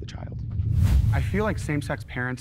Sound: air quivers

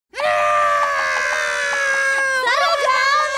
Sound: crying

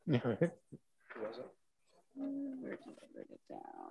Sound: people mumbling

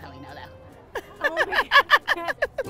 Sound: laughing

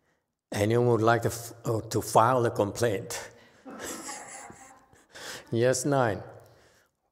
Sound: laughs, audience laughs

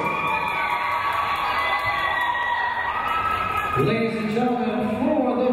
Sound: crowd cheering

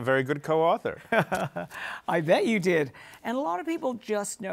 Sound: laughs

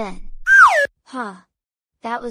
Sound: FX - Slide Whistle - Down

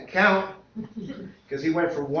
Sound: laughter

